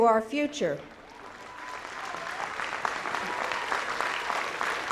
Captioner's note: audience applauding